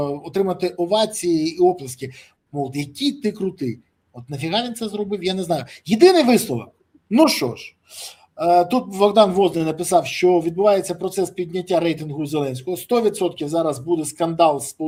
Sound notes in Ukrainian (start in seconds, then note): 7.8 сопіння